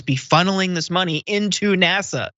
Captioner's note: laugh